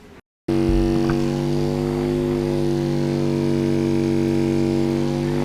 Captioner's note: mechanical vibration noises